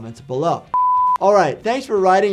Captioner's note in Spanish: pitido de pantalla